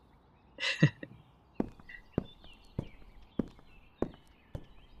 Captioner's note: footsteps, fading out